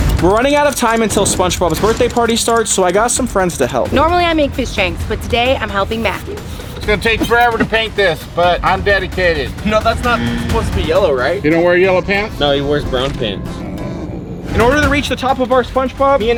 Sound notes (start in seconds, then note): 0.0 intense dramatic music; 10.0 buzzer buzzing